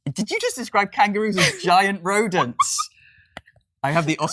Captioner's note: laughs